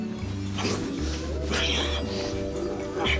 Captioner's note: grunts